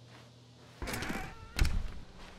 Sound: door closes

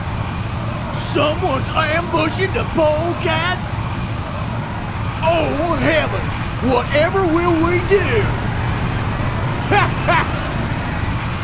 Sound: laughs

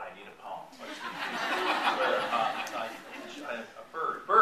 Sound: laughter

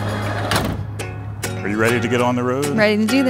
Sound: door clicks; upbeat music continues

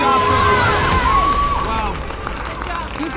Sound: cheering

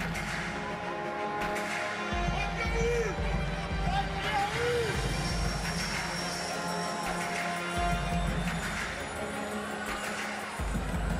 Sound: speaking foreign language

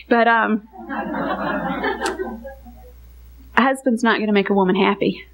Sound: congregation laughing

